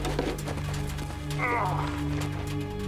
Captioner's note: grunting